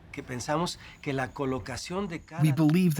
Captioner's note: speaking Spanish